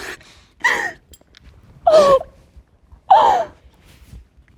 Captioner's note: crying